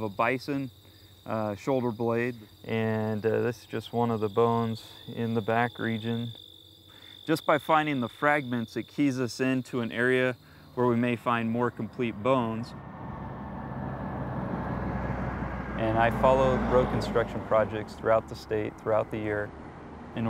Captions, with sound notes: So, we have the bottom end of a bison, a shoulder-blade, and this is one of the bones in the back region. Just by finding the fragments, it keys us into an area where we may find more complete bones. (truck driving by) And I follow road construction projects throughout the state, throughout the year